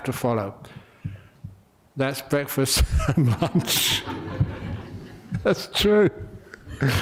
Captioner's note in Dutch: lachen